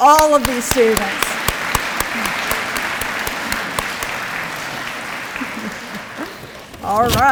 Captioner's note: audience applause